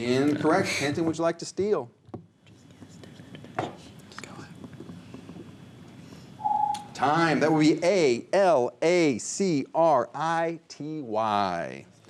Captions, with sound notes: - Incorrect, Kenton, would you like to steal? (whispers) - Time, that would be A-L-A-C-R-I-T-Y.